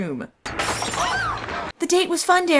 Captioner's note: Glass shatters and Jill screams